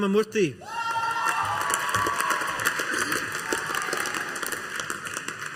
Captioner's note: audience applauding